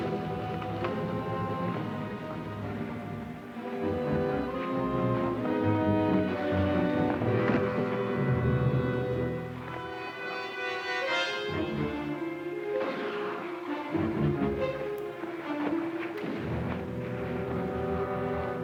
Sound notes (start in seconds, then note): 13.0 distant guns fire; 13.0 suspenseful music